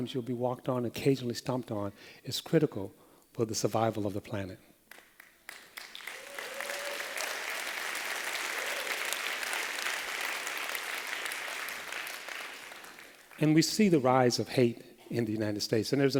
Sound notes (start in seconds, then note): 5.2 applause